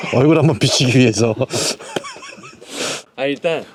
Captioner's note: laugh